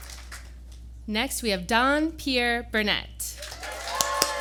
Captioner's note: applause